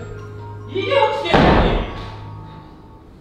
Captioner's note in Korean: 문 닫는 소리